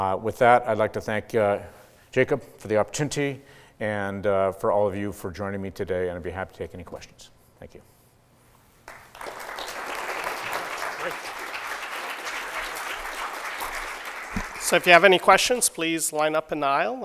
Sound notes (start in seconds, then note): 8.8 applause